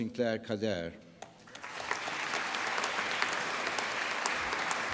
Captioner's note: applause